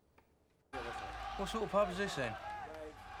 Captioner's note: cheering on TV